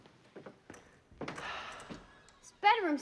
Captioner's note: sighs